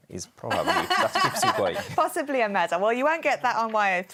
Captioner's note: laughs